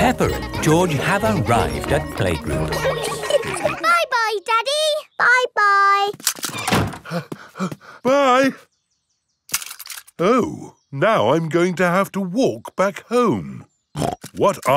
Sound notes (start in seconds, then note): 3.9 snorts; 7.0 panting; 14.2 snorts